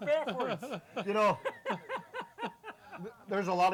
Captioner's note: laughing